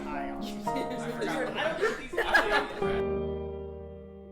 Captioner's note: laughing together